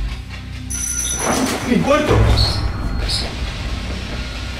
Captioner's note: the bell rings